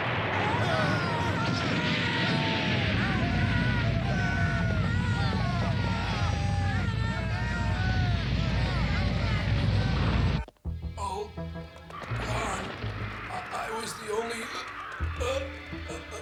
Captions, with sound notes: All... gone... I was the only- (STIFLED GRUNTS)